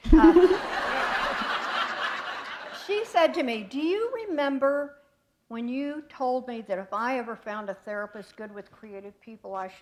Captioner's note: laughter